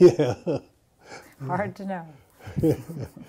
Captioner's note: laughter